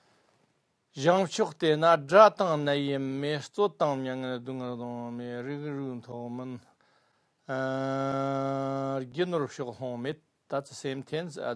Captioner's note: tibetan